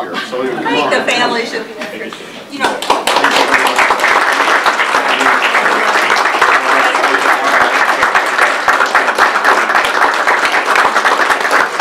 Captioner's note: audience applause